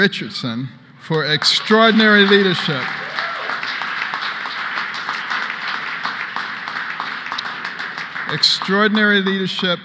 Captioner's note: applause